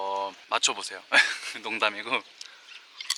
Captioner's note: laughing